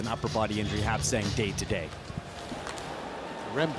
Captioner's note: cheering